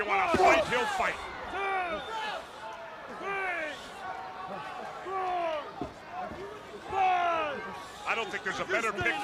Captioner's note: crowd chatter